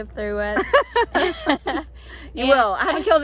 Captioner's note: both laughing